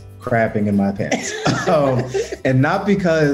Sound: laughter

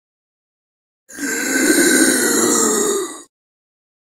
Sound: sound of zombie

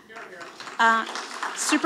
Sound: audience applauding

